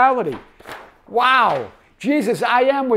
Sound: page shuffles

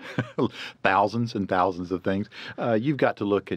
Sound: laughs

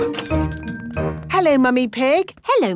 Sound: doorbell chiming

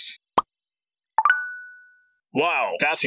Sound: sent notification sound; smartphone notification sound

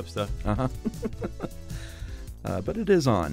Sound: chuckles

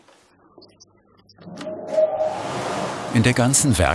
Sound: the machine begins to hum softly

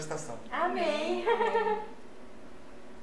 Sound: laughs

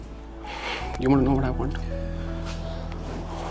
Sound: sighs

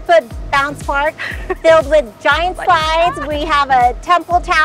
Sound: chuckles

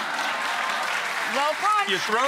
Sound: audience clapping

